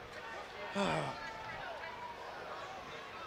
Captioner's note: crowd chatter